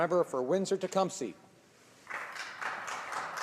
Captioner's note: some Applause